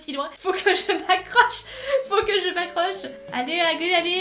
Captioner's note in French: Rires